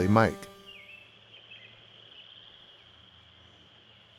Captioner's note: birds chirping